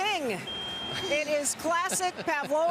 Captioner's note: ringing